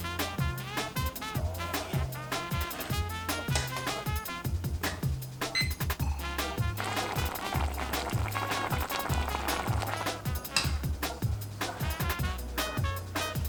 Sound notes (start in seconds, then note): 5.5 timer beeps; 7.0 fun jazz music